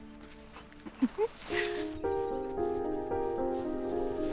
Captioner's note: woman giggling